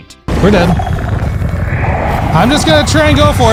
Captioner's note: dungeon noises